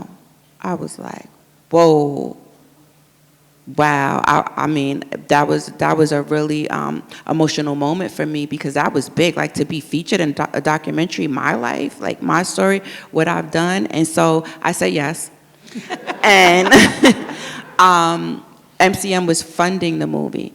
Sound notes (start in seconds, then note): 15.7 audience laughs